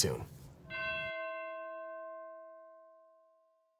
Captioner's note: bell tolls